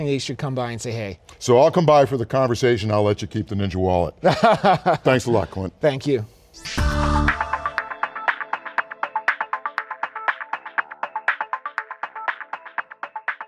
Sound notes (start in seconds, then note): 4.2 laughs; 6.6 electronic music